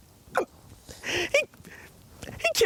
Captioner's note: yelps